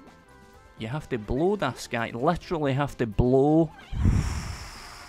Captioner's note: blows